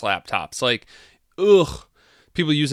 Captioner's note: groans